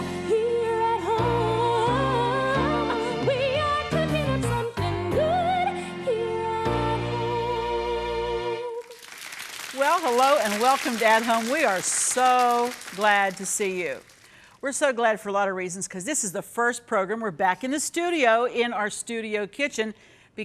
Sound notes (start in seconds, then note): 8.8 audience clapping